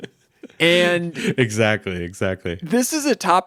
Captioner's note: laughing